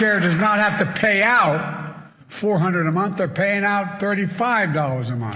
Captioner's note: cheers and applause